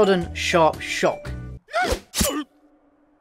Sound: yelps; quick grunt; knife pierce

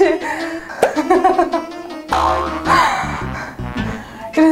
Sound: just laughing

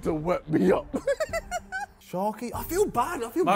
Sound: laughs

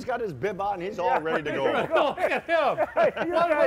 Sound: laughing

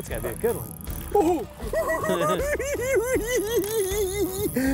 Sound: cackling

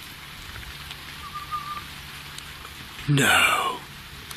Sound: whistling

